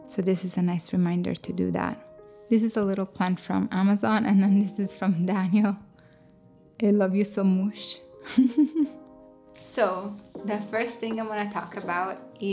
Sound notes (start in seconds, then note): 8.3 laughs